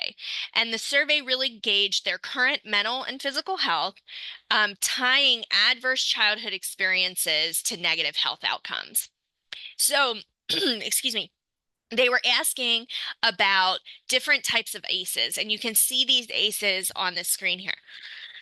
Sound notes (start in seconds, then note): 10.5 coughs